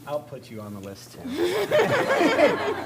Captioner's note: laughter